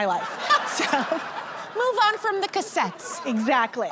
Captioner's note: laughter